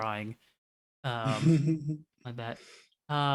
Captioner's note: chuckles softly